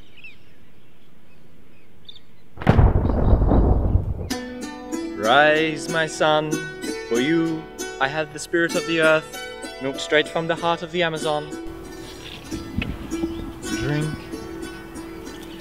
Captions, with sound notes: *thunder sound* *oriental music* Rise my son For you, I have the spirit of the Earth, milked straight from the heart of the Amazon Drink